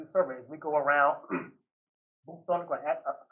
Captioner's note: clears throat